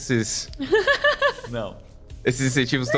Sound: laughs

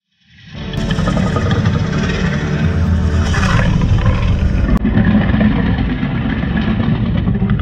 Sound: Indominus growls

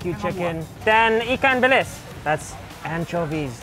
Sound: speaks foreign language

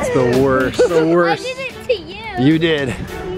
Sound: laughs

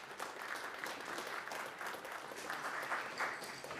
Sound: audience clapping

